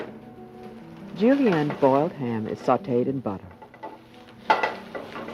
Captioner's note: voiceover